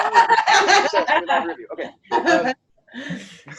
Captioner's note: laughs